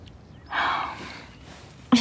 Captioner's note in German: Seufzen